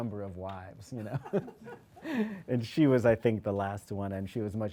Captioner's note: laughing